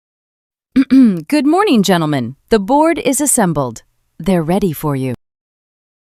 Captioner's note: clears throat